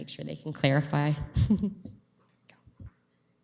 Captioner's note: chuckles